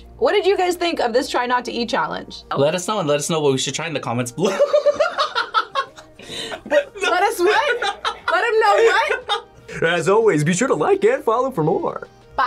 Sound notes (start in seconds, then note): 4.5 laughs